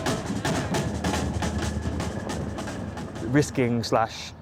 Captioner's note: helicopter blades whirring